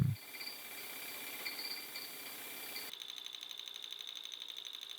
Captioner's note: burnisher whirring